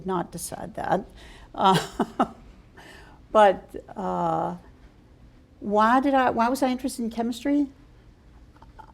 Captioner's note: laughter